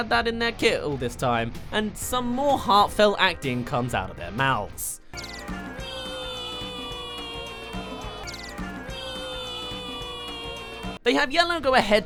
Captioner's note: wheeeee